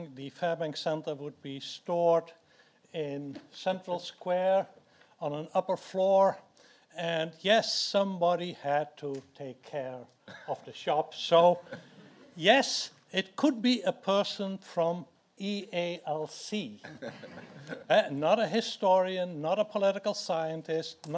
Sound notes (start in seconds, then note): 16.9 audience laughs